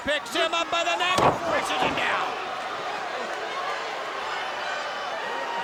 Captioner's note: crowd cheering